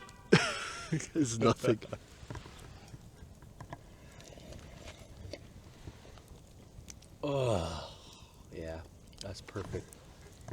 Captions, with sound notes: *chuckles* "It's nothing" *laughs* *slurping* *moans* "Yeah, that's perfect"